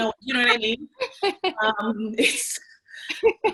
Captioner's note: laughs